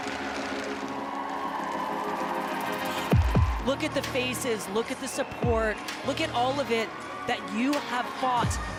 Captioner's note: applause